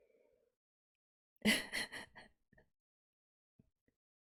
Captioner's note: laughs